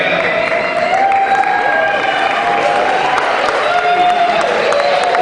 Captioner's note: cheering